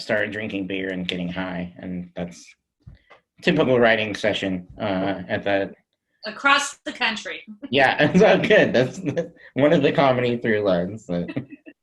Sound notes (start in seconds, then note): 8.2 laughs